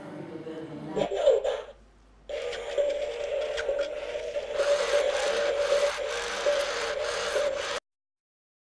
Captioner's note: mechanical whirr of robot